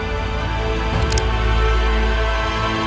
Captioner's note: gun cocking